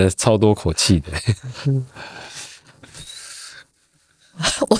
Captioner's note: laughing